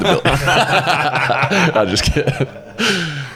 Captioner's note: both laugh; laughs